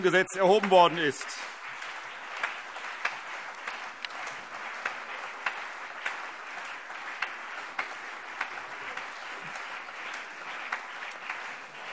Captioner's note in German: Beifall CDU, BÜNDNIS 90/DIE GRÜNEN und auf der Regierungsbank